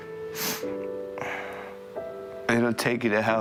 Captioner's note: sobbing